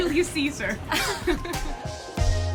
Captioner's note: laughs; upbeat music